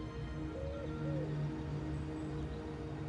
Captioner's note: pigeon coos